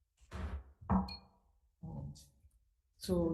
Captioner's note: gavel bangs